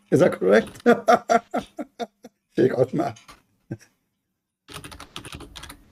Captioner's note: Ketawa